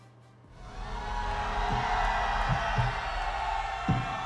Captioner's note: cheering